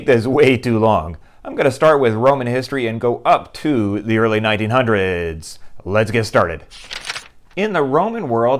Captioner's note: page turning